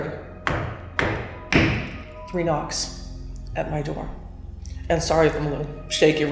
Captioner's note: three knocking sounds